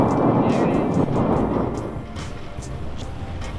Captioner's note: wind